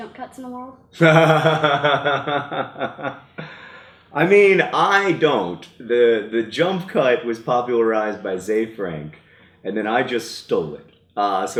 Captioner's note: laugh